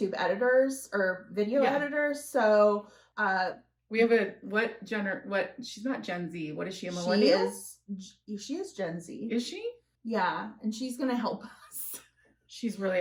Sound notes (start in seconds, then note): none